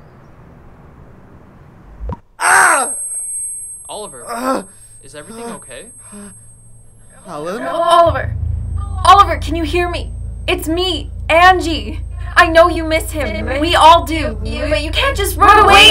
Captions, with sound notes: (SOFT CHIME) - (RINGING) - (OLIVER SCREAMS) Oliver! Is everything okay? - Hello? - (DISTORTED VOICE) Oliver! Oliver, can you hear me? It's me, Angie. I know you miss him. We all do. But you can't just run away--